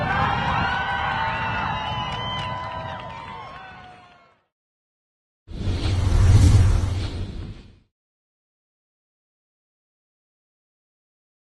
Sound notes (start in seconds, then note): 0.0 crowd cheering; 5.5 logo swooshing